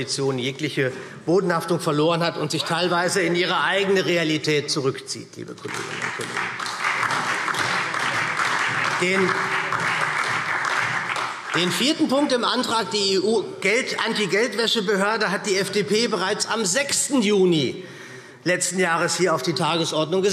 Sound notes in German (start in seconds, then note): 5.6 Beifall SPD